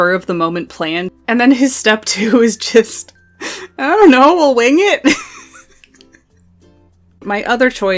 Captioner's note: laughs